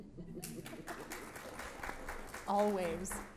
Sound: audience applauds

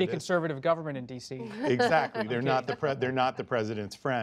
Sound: laughter

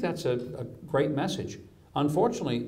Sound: none

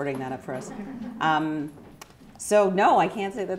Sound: chuckling

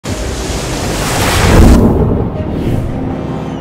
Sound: splashing waves; rousing music

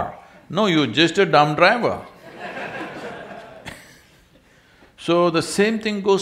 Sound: laughter

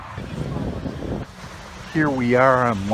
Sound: crowd chattering

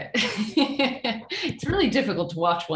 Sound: laughs

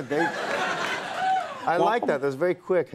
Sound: audience laughing

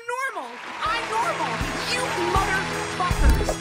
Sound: applause And Music Fading In

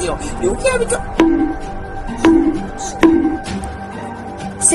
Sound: hitting

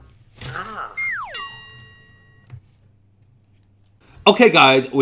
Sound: slide whistle down; bell dings

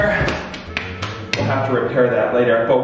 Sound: clapping

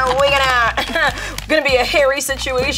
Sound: laughing

